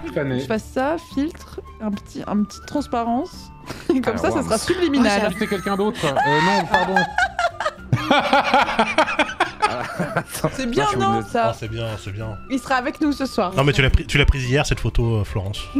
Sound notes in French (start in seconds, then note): 5.3 rit de son oeuvre